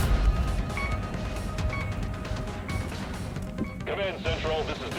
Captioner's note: laser blasting; electronic beeping